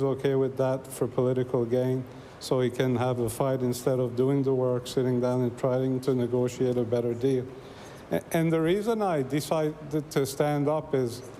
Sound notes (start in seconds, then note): none